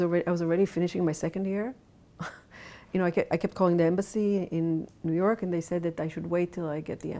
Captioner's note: chuckles